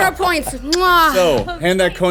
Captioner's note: everyone laughing; kiss